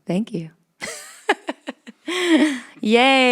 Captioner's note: laughs